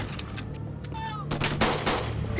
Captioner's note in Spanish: Disparos